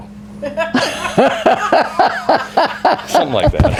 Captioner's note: laughing